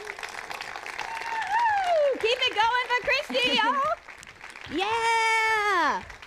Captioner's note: applause